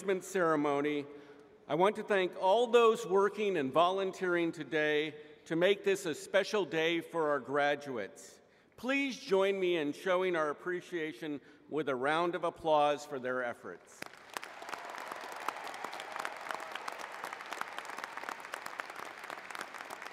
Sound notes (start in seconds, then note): 14.0 applause